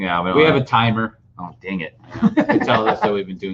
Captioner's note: laughing